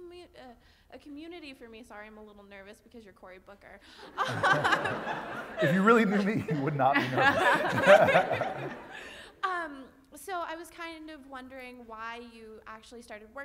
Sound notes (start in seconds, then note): 4.1 laugh